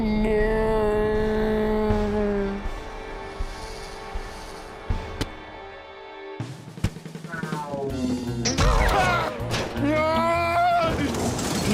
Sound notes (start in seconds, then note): 8.6 boing